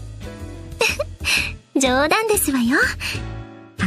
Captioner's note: giggle